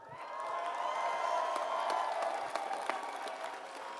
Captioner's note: applause